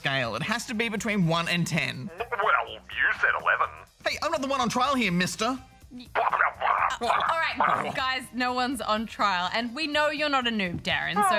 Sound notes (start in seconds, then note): 6.2 splutters